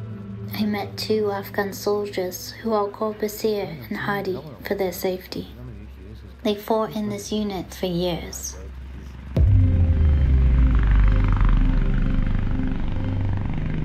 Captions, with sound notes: I met two Afghan soldiers who I’ll call Baseer and Hadi for their safety. They fought in this unit for years. [Helicopter blades cut through the air]